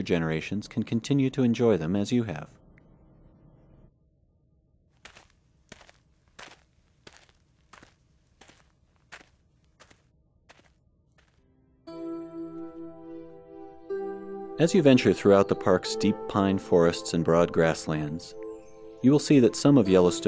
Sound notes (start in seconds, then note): 5.0 sound of footfalls in dirt - music